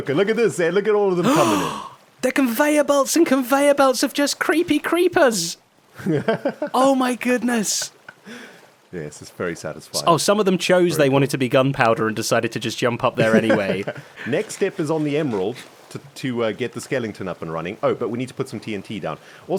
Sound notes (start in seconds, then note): 1.2 gasps; 6.0 laughs